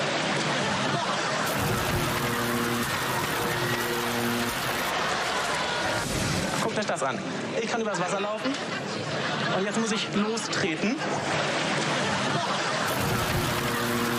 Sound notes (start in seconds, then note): 1.1 laughing; 1.4 electric buzzing